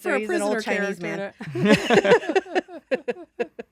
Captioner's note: laughing